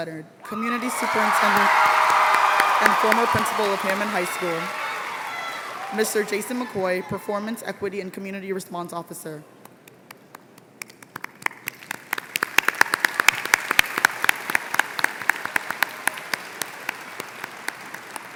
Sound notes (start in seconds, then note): 0.4 applause; 10.8 applause